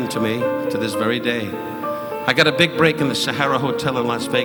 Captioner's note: audience cheering; audience laughing